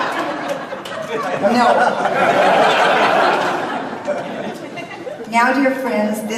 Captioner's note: audience laughs